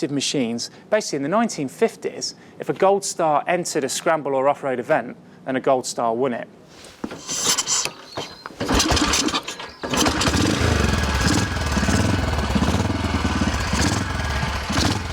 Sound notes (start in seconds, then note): 10.1 engine roars